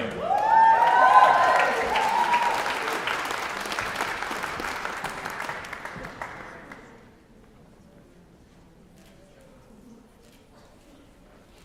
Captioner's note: applause